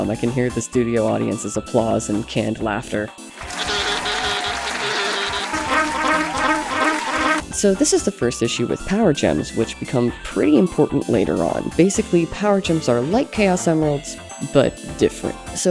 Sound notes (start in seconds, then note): 3.4 bee buzzing sounds followed by studio audience clapping; 5.7 Yoshi mlem noises accompanied by more applause